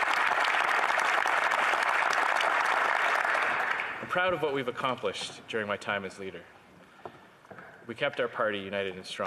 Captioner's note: applause